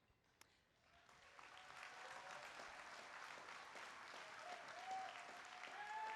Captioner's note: applause